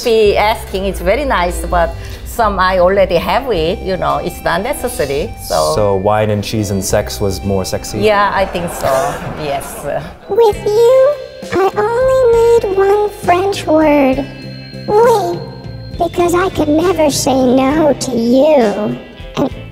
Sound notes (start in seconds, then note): 9.6 audience laughs; 14.4 speaks in foreign language